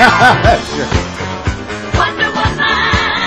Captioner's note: laughter